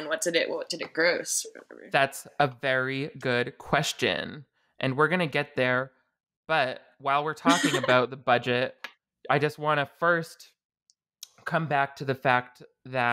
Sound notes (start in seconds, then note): 7.4 laughing